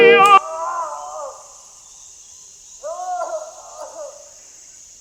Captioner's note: distant screams